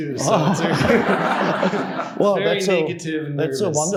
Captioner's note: Eckhart Tolle and audience laughing